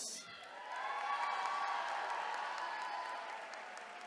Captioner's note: attendees cheering